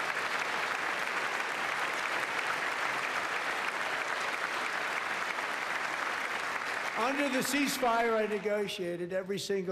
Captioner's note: applause